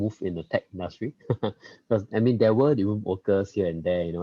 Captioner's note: laughs